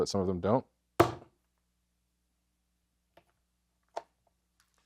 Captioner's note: cleaver thuds